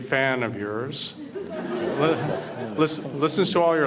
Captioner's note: audience Laughter